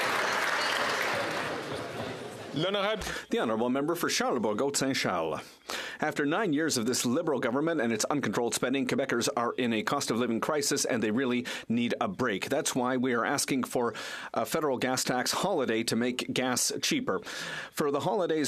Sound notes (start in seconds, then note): 2.0 some Applause